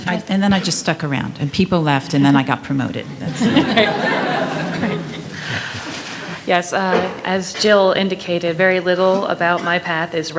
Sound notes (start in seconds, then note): 3.2 attendees laughing